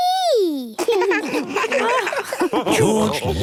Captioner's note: laughs